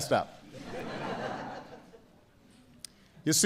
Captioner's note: laughter